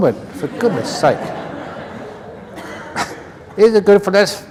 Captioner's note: laughter